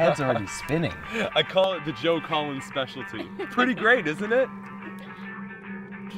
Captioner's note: laughs